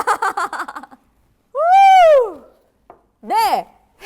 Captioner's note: ohh